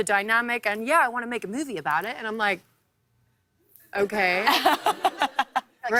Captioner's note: laughter